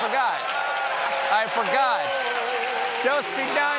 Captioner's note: applause